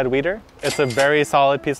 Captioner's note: cash register rings